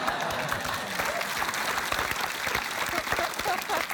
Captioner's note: applause